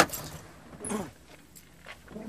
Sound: Aldos clears throat

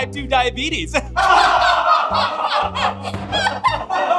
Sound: laughing

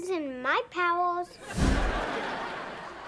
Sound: whooshing

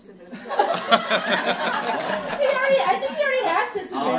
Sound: audience laughing

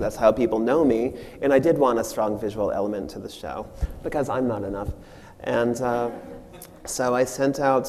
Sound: audience laughs

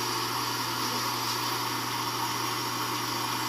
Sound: vacuum

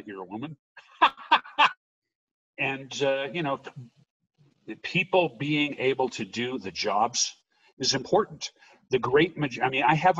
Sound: laughing

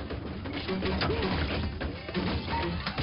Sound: crashing

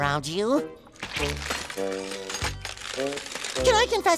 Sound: crunching

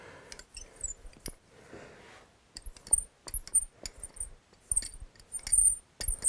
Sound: engraving tool squeaks

